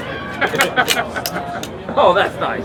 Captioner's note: laughter